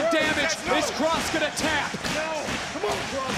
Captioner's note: audience cheering